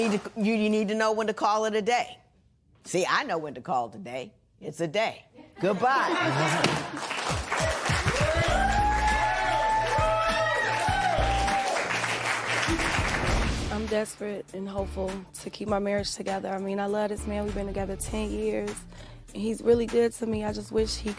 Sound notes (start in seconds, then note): 5.4 laughter; 8.5 cheers and applause